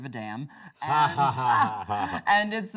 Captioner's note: both laughing